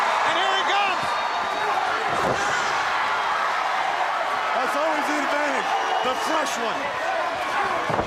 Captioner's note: applause